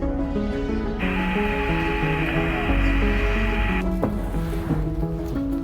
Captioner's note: static whirring